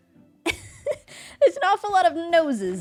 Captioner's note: laughs